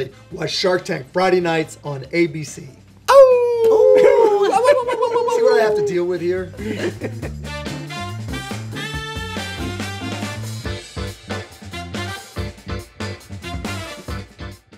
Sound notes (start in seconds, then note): 3.1 howling; 7.0 jazz music